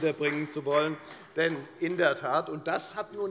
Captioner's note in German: Beifall bei der FDP